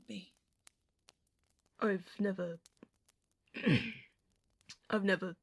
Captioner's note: James clears his throat